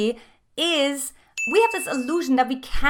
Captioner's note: dinging